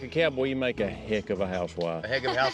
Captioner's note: everybody laughs